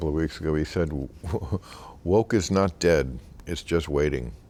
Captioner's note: laughing